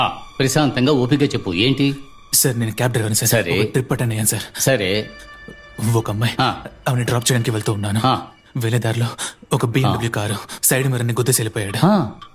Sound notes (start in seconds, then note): none